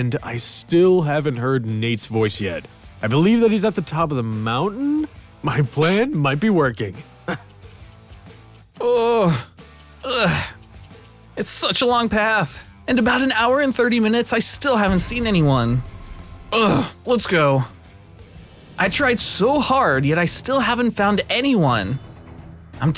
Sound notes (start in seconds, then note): 7.3 pants